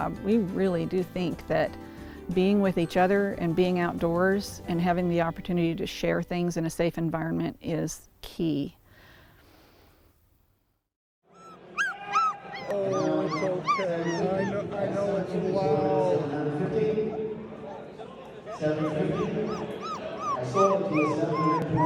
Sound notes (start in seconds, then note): 11.9 puppy crying; 14.4 announcements in background